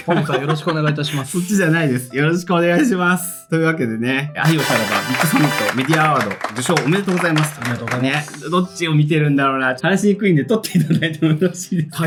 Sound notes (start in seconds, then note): 0.0 laughs